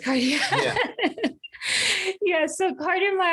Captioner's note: laughs